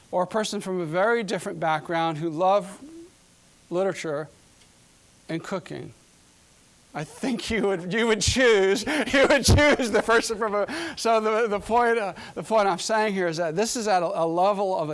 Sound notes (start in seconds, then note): 8.5 laughing; 8.6 chuckling